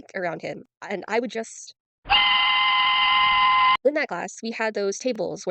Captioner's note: train whistle